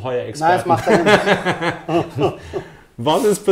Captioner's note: laughs